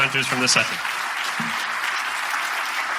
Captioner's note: audience applauding